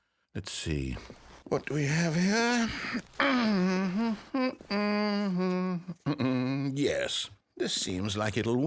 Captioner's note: humming